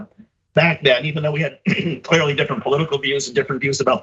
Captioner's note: cough